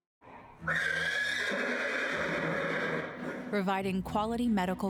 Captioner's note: horse neighing